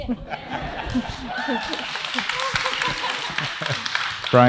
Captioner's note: audience cheers